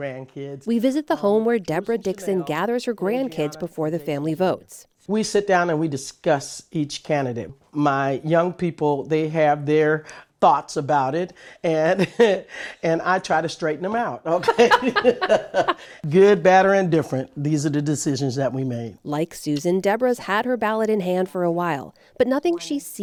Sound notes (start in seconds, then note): 14.3 laughter